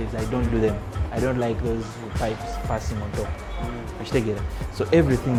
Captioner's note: foreign language